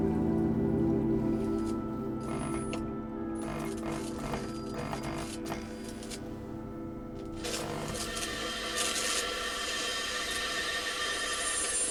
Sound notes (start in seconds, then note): 1.6 light buzzing; 8.4 television squelching